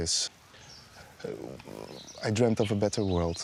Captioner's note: stammers